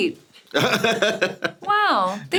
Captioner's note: SungWon laughs